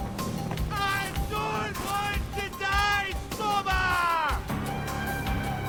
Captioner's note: man screaming